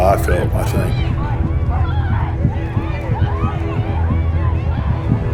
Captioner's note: kids yelling indistinctly